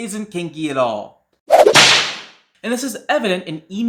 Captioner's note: whipcrack.mp3